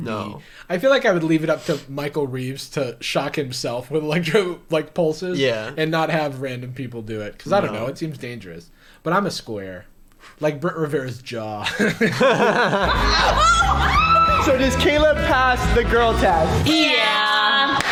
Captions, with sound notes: - No. - I feel like I would leave it up to Michael Reeves to shock himself with electro, like, pulses and not have random people do it. Cause I don't know, it seems dangerous. but I'm a square like Brent Rivera's jaw. (laughter) (screaming) - So, does Caleb pass the girl test? - Yeah.